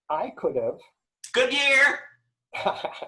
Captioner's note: laughs